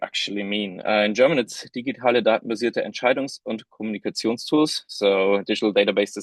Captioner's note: speaking in german